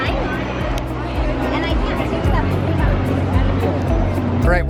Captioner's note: crowd bustling